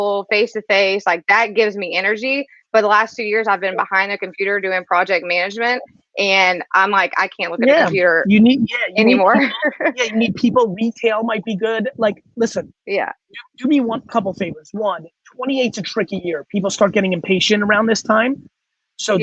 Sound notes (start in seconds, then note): 8.4 laughs